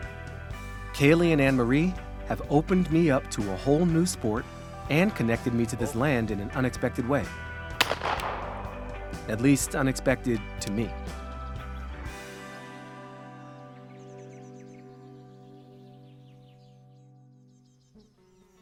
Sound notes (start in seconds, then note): 0.0 gentle music; 7.8 shotgun banging; 11.1 gentle music